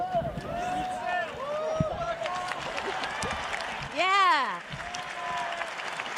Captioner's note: cheers and applause